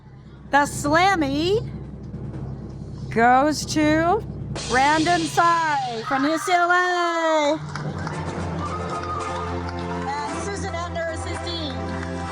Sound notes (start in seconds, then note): 6.8 majestic music; 7.4 audience applaud; 12.0 applause continues; 12.0 majestic music continues